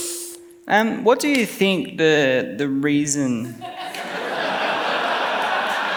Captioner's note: laughs